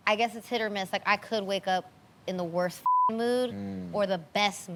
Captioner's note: beep